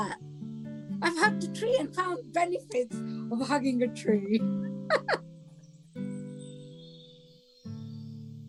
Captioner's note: laughs